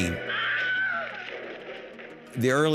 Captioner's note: Wilhelm Scream